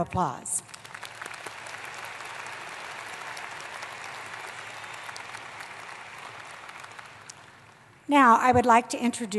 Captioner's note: applause